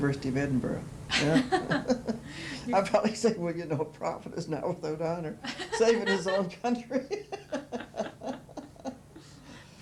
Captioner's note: laughter